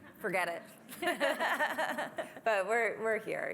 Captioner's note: laughter